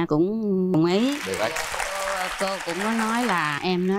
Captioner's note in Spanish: Aplaudir